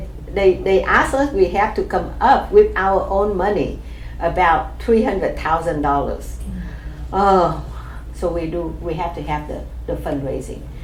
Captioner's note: exclaims